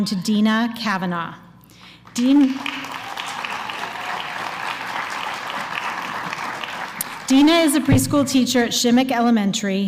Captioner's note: applause